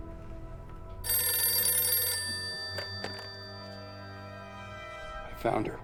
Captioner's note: phone ringing